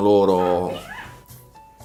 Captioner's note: chirping